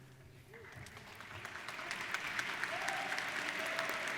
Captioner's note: applauding